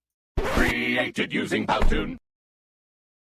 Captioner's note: electronic voice